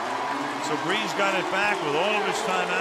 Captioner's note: cheering